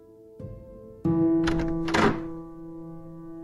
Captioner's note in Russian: открытие двери